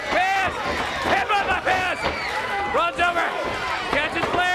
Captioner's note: crowd cheering